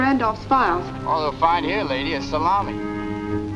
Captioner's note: on phone